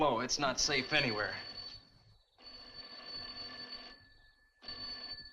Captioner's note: telephone rings